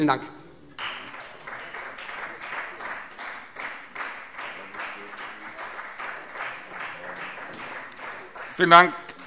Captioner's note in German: Beifall Freie Demokraten